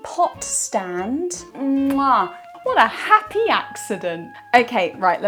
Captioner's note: chef’s kiss